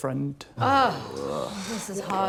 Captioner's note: groans